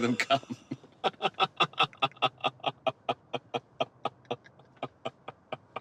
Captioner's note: laughing